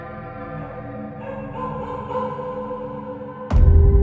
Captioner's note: dog barking; suspenseful thud